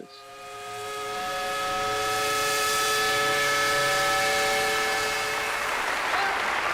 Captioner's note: steam whistle; applause